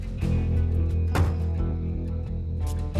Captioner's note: closes car door